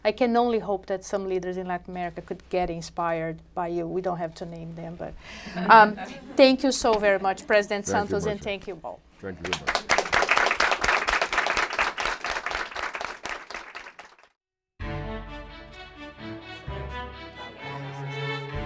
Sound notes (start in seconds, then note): 9.4 applause